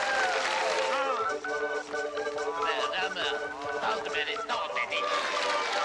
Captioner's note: Стонет